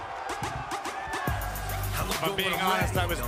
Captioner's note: cheers & applause